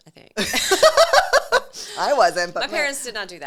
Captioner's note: laughs